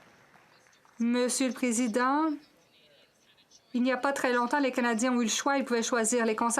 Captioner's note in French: voix de l'interprète